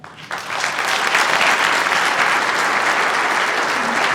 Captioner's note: audience applauds